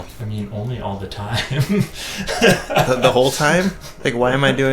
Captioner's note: laughing